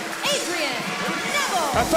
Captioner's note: bell ringing